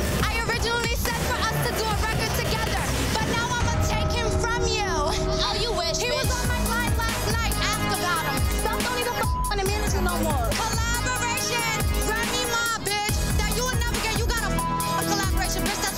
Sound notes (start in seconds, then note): 9.8 beep; 14.6 beep